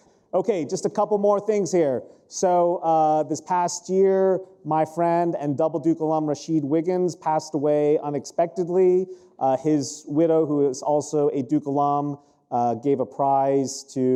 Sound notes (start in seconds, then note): none